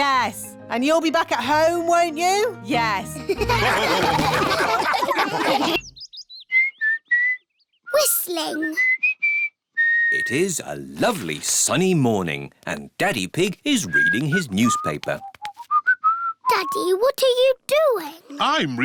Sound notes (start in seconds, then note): 3.3 all laugh; 5.7 whistling; 15.4 whistling